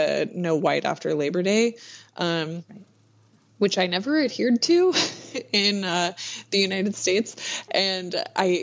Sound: laughs

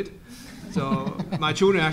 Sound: audience laughs

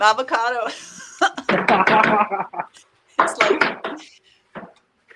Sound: laughing

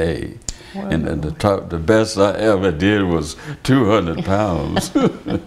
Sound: laughter

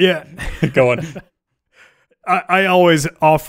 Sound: laughing

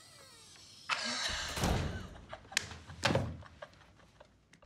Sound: both laugh

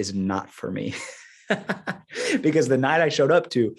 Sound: laughing

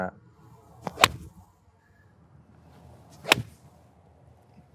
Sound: whipping sound

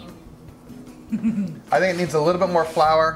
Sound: chuckles

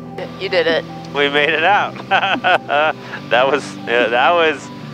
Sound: laughs

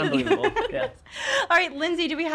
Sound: laughing

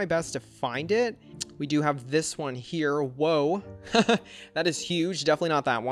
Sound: laughs

